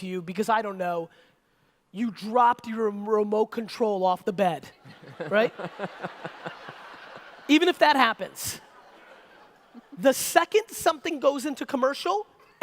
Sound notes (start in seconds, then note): 4.8 audience laughter